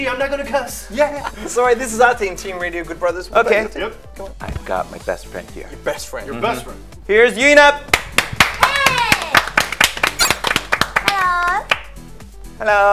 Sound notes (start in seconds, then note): 7.9 clapping